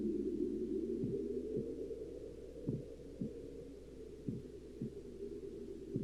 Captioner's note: heartbeat